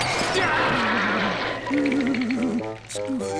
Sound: teeth chattering

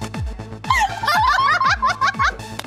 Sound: laughing

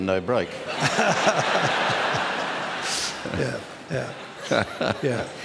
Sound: laughter

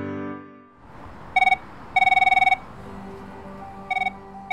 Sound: phone ringing

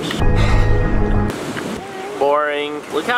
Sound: gasping

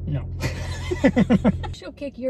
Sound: laughing

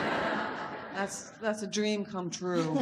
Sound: audience laughs

